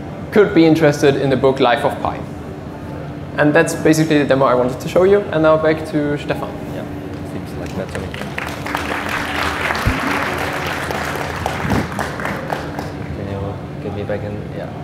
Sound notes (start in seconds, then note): 7.5 audience applauds